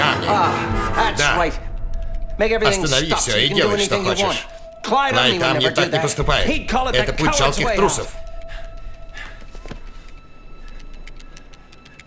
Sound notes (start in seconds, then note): 8.5 panting; 8.5 typing